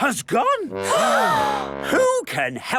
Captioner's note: all gasp